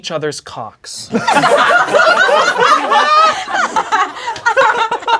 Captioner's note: crowd laughing